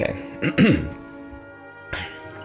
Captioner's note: clears throat